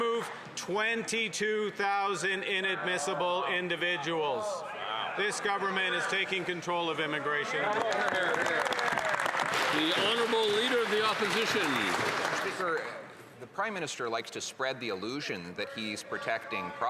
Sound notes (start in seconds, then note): 13.0 some Applause